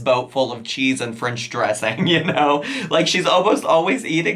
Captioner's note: giggles